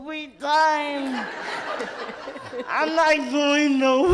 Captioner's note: audience laughs